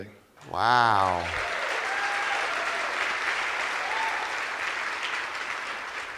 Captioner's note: cheers and applause